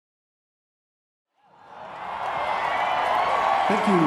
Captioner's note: cheering